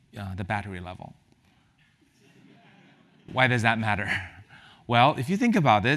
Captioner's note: laugh